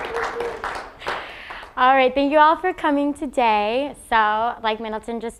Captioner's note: applause